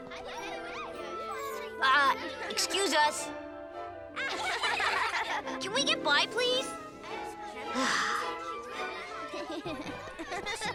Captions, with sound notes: UH, EXCUSE US. [laughing] CAN WE GET BY PLEASE? [sighing]